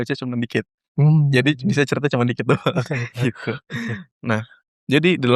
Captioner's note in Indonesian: tertawa